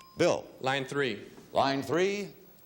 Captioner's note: bell dinging